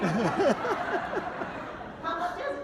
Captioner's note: laughing